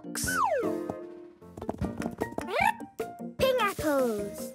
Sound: chirping

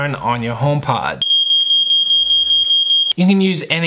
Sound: alarm beeping

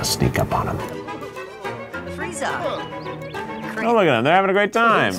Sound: Avatars speaking Simlish

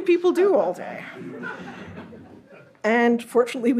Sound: audience laughs

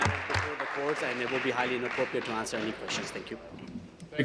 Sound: applause

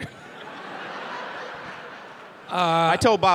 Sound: audience laughing

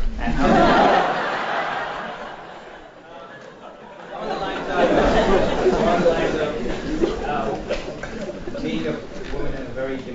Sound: laugh

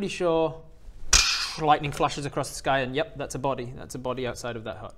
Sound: tssch

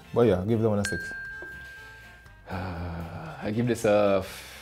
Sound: bell dings

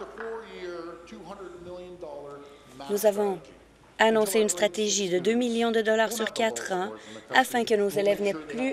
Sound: applause

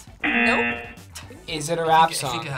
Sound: buzzer sounds

